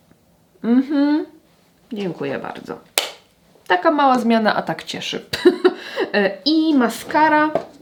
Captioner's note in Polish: śmiech